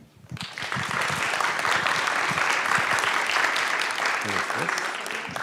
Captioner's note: audience applauds